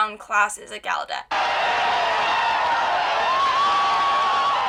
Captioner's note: cheering